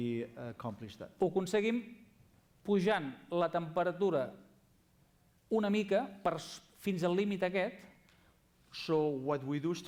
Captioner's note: non-english speech